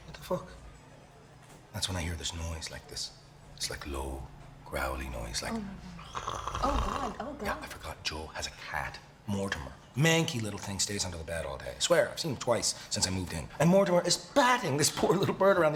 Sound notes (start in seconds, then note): 6.0 growling